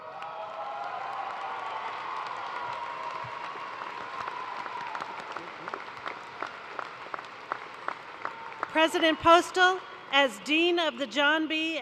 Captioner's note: cheers and applause